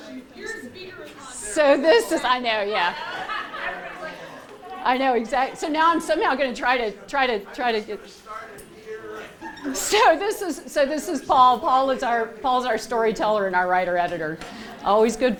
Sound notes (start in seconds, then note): 2.5 laughter